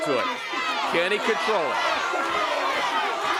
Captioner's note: crowd cheering